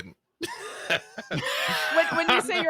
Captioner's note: laughs